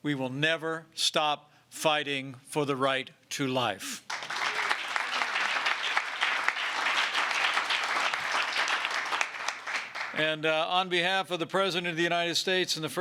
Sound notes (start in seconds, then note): 4.0 applause